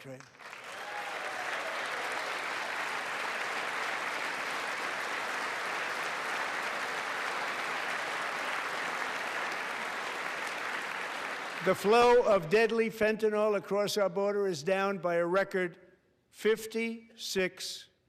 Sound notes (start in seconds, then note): 8.2 applause